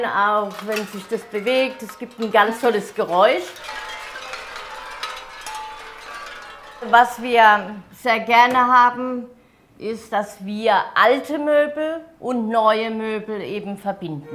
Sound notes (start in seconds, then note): 4.5 light clattering